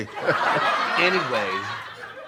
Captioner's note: audience laughs